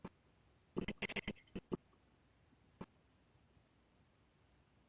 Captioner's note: audio skipping